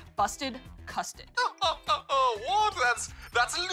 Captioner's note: laughs